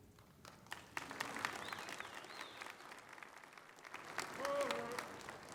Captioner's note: applause